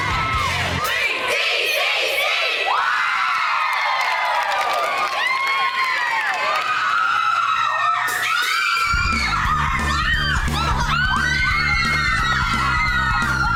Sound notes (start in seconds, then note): 4.6 women cheering